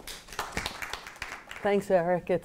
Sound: audience applauds

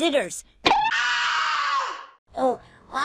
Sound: screaming

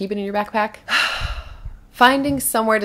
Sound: heavy sigh

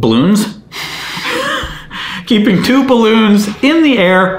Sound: laughing

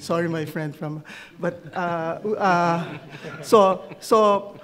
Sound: audience laughs

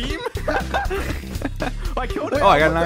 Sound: giggles

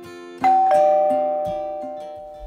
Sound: doorbell Noise

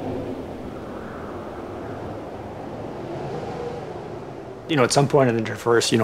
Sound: wind howling

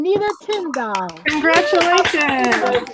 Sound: applause

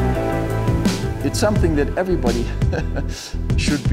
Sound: upbeat instrumental music; chuckles

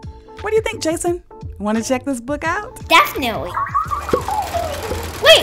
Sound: Sounds of the Whoa Gizmo shaking

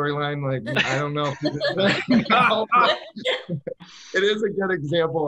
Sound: all laugh

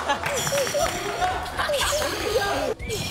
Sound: laughing

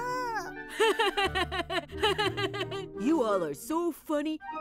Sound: laughs

